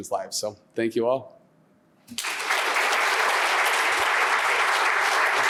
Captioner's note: applause